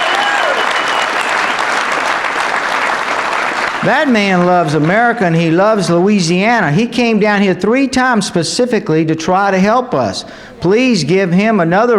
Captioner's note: applause